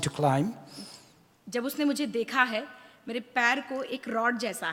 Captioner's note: speaks foreign language